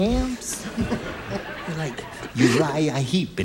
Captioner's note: laughter